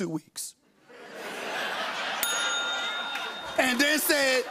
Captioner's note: laughter, bell dings